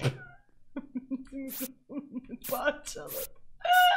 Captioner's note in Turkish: gülerek